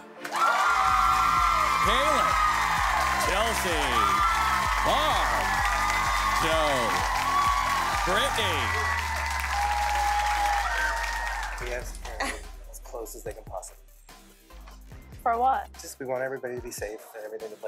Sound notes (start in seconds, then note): 0.2 cheering; 10.0 cheering and clapping